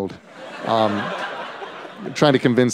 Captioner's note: laughter